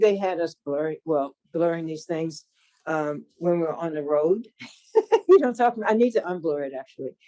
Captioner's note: laughs